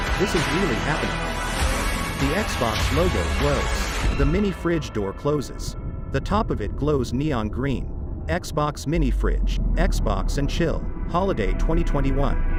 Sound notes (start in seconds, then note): 4.2 dramatic sound